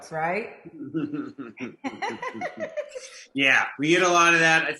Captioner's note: Zainab and Kevin laugh